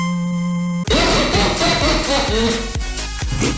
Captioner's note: jerkish Laughter